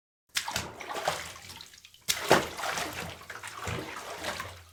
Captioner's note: water splashing